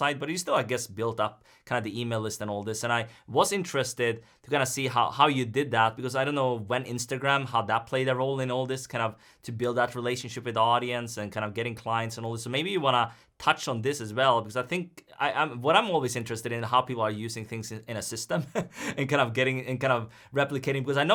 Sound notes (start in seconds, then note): 18.4 chuckles